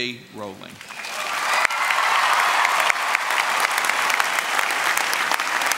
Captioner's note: cheering, applause